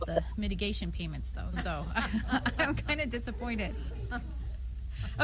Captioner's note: laughter